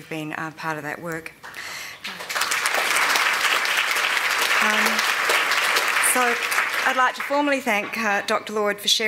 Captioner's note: applause